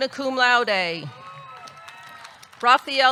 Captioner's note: audience cheering; audience clapping